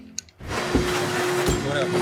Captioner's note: vacuum sound